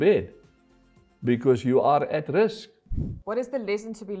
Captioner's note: air whooshing